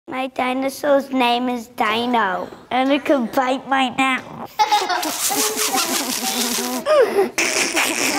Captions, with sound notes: - My dinosaur's name is Dino. And it like to bite my nose. (children laughing)